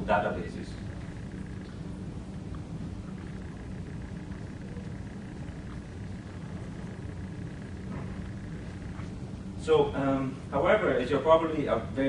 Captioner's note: sips water